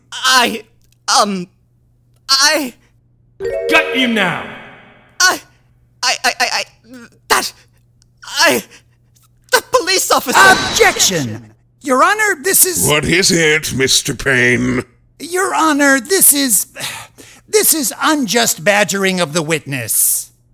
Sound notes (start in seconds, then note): 16.9 groans